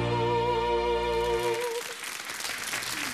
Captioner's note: audience clapping